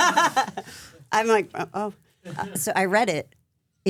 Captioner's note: laughs